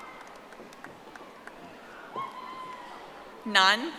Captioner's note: audience applauding